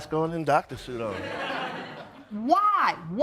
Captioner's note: audience laughs